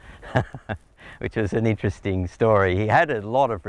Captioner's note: chuckles